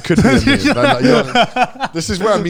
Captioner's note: all laughing